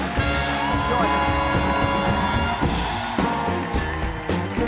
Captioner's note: applause